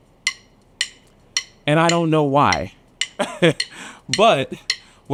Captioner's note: laughs